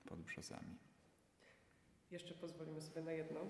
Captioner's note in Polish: cisza